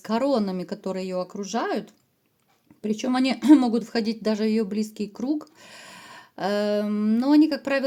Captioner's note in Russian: откашливается